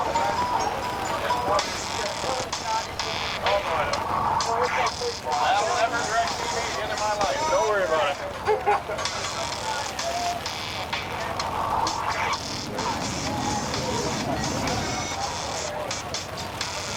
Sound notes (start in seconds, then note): 0.7 upbeat electronic music; 5.5 people chattering in background